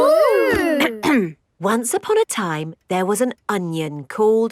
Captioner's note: clears throat